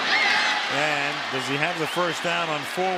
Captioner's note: cheering